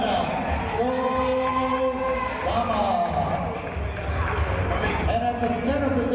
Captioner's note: applause